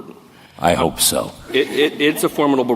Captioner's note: laughter